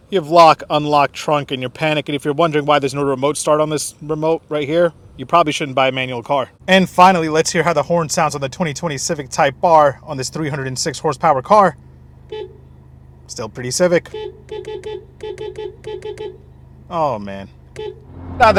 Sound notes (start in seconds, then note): 11.8 honks horn; 14.3 honks horn continously